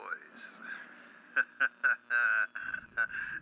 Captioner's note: laughs